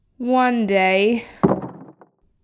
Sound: thump!

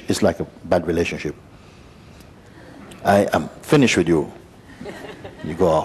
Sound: laughter

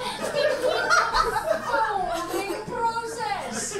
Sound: audience laughs

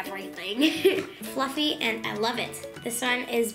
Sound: laughing

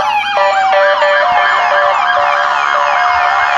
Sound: loud sirens

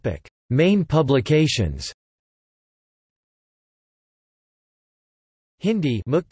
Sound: Hindi

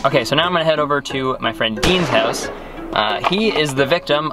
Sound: gunshot banging

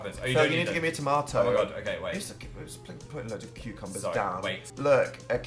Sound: stutters

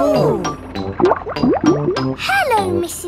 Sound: bubbling

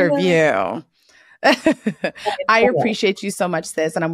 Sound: laughs

